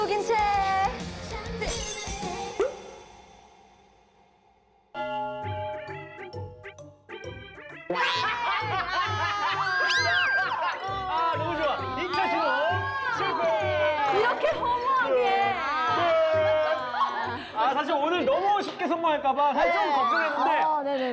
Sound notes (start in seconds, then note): 9.8 screaming out of embarrassment